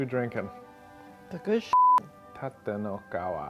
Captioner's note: beeping